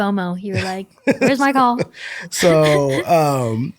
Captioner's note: laughter